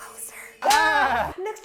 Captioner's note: whispers; slap